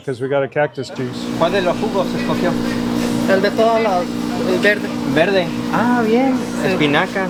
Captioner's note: and shopper speaking Spanish